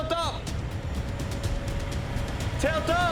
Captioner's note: forklift engine humming